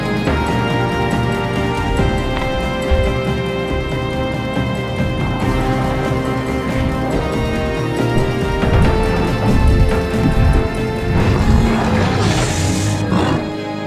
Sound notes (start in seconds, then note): 8.2 wings beating; 11.0 creature roaring